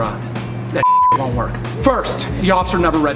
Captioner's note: beeps